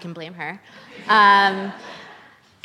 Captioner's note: laughter